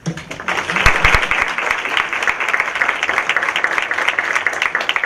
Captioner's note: applause